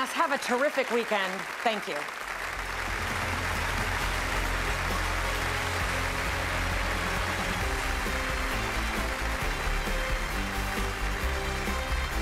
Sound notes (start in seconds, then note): 2.9 audience applauding